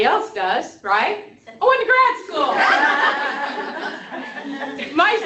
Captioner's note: laughter